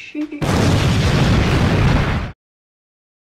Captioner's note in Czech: exploze